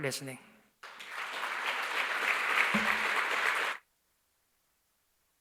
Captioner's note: applause